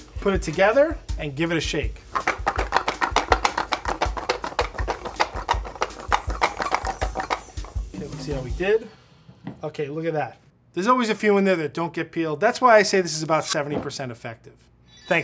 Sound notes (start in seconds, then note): 1.8 saucy music; 2.0 bowls clattering